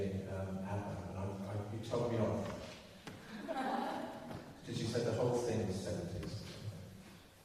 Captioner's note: laughter